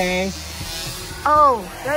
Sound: drone buzzing

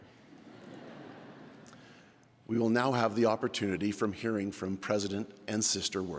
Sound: laughter

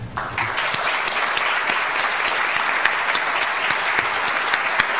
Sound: audience applauds

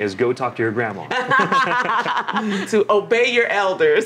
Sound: laughs

